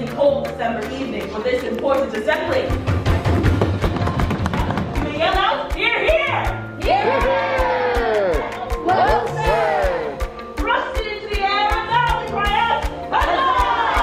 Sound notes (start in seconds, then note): 2.7 thudding noises; 6.8 audience cheering